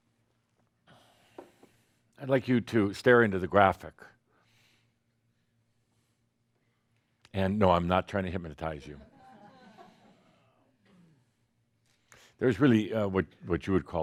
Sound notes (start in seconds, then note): 9.5 a few chuckles